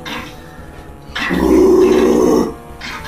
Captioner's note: growl